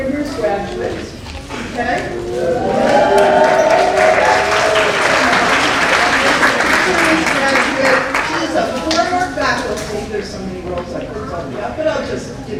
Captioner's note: applause